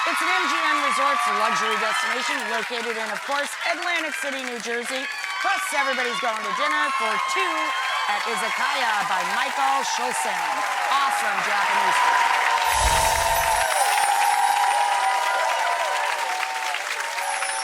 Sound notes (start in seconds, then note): 9.5 crowd continues to cheer loudly; 12.6 twinkling sounds